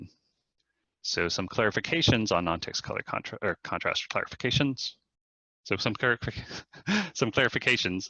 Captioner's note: chuckle